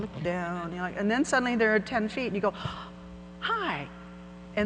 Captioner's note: gasps